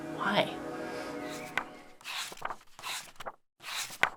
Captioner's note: pages turning